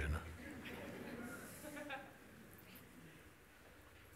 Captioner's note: Lachen